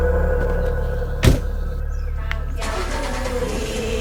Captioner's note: door rattles and engine starts